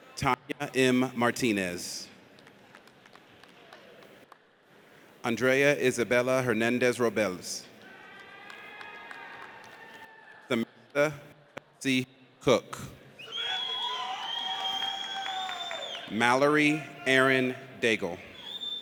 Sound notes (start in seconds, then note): 7.8 audience cheers; 13.2 audience cheers